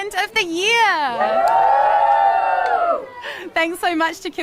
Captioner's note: all cheer